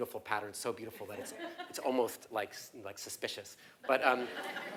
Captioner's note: laugh